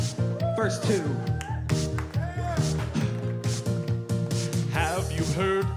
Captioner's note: crowd cheering